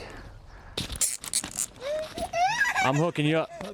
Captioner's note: sound of zip-tie being tightened